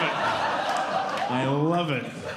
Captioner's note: audience Laughing